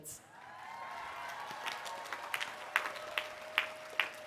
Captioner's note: applause